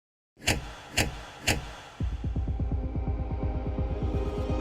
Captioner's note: lights clicking